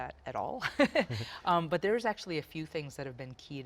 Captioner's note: laughing